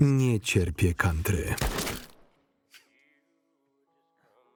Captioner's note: pistol booming